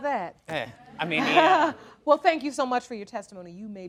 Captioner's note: chuckling